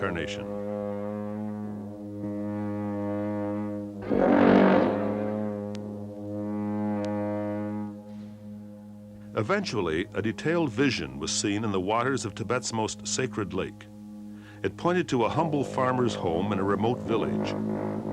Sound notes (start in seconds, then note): 3.9 long horn continues; 8.8 long horn sounds